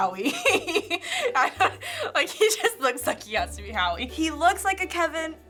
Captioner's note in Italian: Ridacchiando